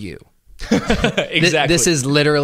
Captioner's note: laughs